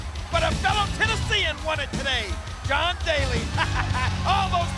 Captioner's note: chuckles